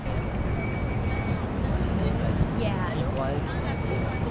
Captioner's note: brakes squealing